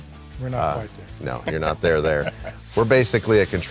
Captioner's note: laughing